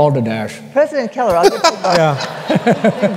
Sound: laughter

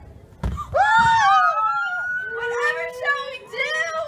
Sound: screams

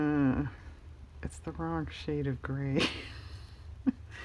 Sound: laughs

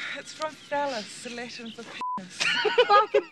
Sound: beep; laughs

